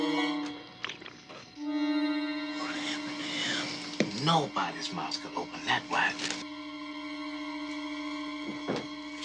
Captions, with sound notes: - (Whispers) What happened to him? - Nobody's mouth can open that wide!